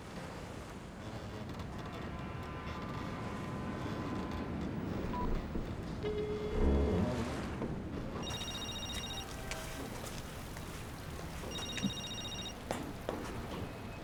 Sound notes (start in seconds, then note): 5.0 cell phone beeps; 5.0 line rings; 8.2 cell phone rings; 11.4 ringing